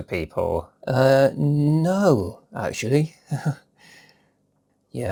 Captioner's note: chuckles